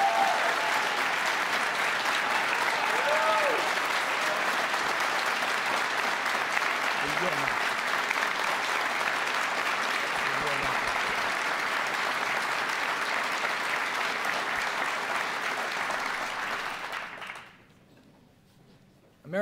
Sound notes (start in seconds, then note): 6.5 applause